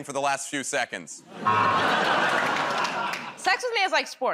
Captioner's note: laughter, buzzer